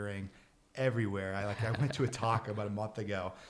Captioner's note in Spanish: riendo